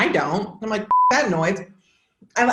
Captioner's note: beep